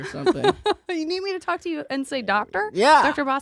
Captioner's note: laughs